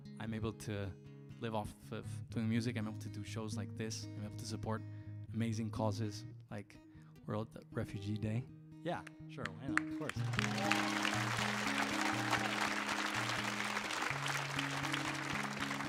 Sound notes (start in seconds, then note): 10.0 audience applauds and cheers